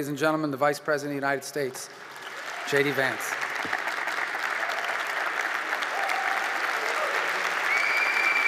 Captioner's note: applause